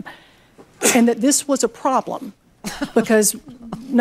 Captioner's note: laughs